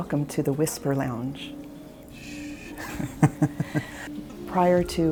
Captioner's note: laughs